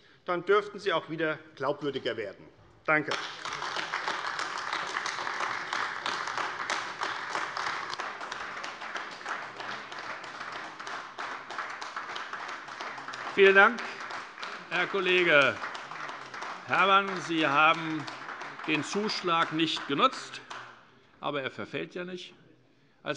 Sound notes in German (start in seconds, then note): 5.4 Beifall AfD